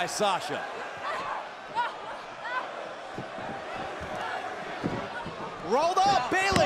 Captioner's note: crowd cheering